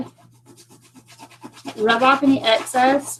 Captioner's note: scratching